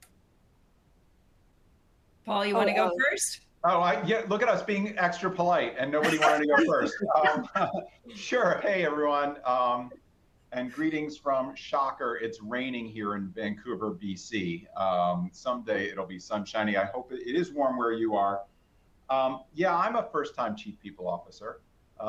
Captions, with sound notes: - Paul, you want to go first? - Oh, yeah, look at us being extra polite and nobody wanted to go first. (all laugh) Sure. Hey, everyone. And greetings from, shocker, it's raining here in Vancouver, BC. Someday it'll be sun-shiny. I hope it is warm where you are. Yeah, I'm a first time chief people officer.